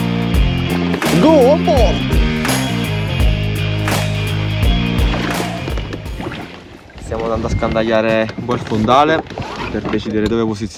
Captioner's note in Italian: Applauso